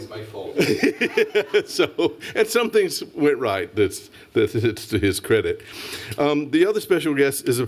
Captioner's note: laughs